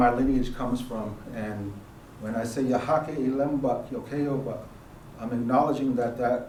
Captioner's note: speaking elem